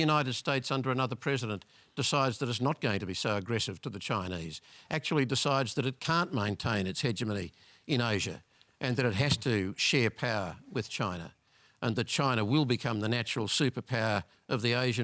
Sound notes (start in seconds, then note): none